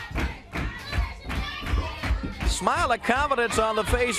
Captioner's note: crowd cheering